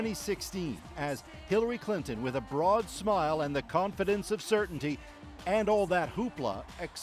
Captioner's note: cheers and Applause